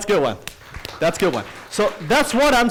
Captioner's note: audience applauds